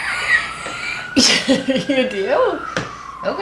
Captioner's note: laughing